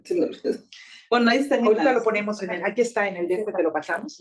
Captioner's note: speaking Spanish